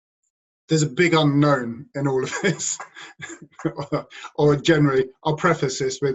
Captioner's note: laugh